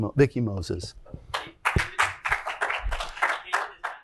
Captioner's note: applause